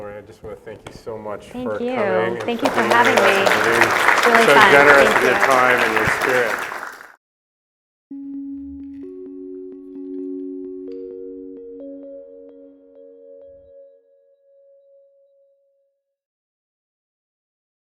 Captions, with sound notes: Well, Lori, I just wanna thank you so much coming. - Thank you. Thank you for having me. (audience applauding) - So generous with your time and your spirit. (calm music)